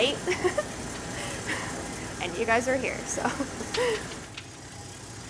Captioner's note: laughs